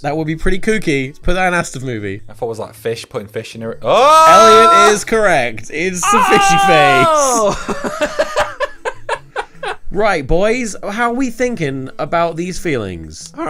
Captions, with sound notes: - That will be pretty kooky. Put that it asdfmovie. I thought was fish, putting fish in her- - Oh! - Elliot is correct. It's a fishy face! - Oh! (laughing) - Right boys, how are we thinking about these feelings?